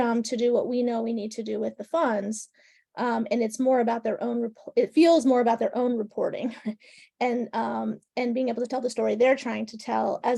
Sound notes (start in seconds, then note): 6.4 laughing